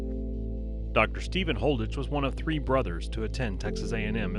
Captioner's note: voiceover